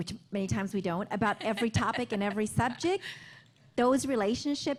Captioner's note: laughter